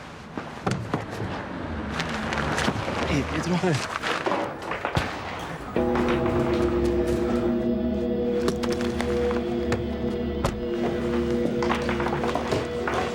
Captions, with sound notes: - Hey, Pietro. - Hey. (gunshot popping) (dramatic music)